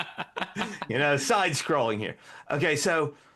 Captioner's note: laughing